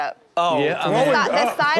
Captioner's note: crowd laughs